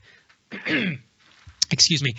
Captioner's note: coughs